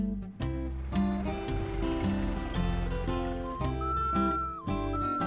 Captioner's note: car putters; flute plays